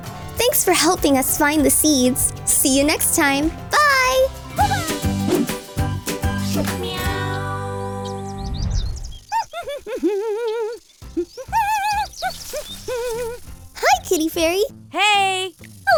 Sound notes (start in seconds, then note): 4.0 pop music; 8.9 humming